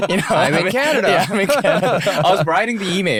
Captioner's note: laughter